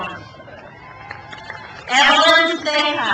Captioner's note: crowd cheers